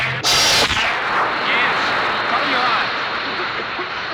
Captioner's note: zapping; hissing; coughing